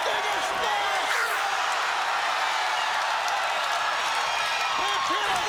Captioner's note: crowd cheering drowns out commentators; crowd cheering; crowd cheering drowns out commentators